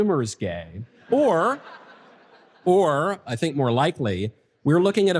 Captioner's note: audience laughter